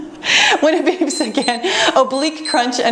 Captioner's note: timer beeps